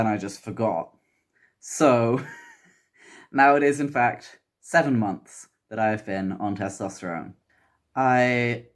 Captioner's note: laughs